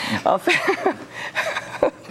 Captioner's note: laughing